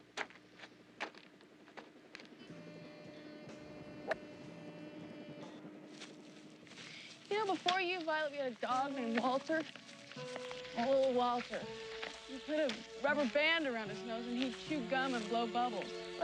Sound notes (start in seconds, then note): 5.7 footsteps